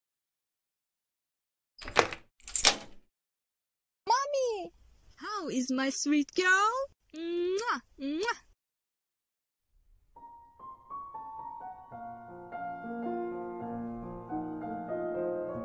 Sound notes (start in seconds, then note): 1.8 door lock and key sounds; 7.2 Mother smooches Sungu sounds; 10.2 bg music